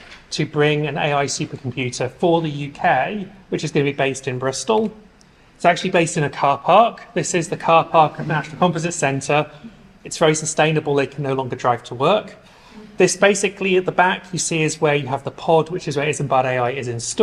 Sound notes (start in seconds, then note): none